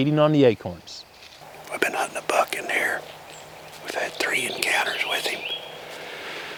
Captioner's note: whispering